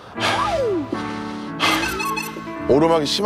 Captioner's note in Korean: 호흡 곤란